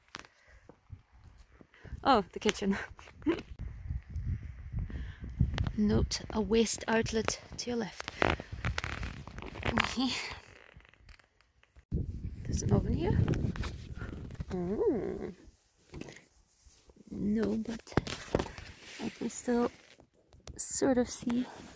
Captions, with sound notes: Oh, the kitchen! [chuckles] "Note a waste outlet to your left." There's an oven here. Ooh! No, but you can still sort of see.